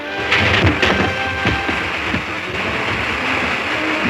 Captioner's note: logs rumbling